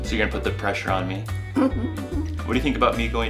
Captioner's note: laughs